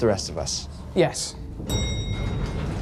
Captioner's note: bell dings